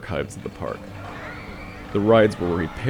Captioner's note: carnival sounds